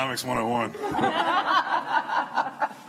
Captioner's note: laughter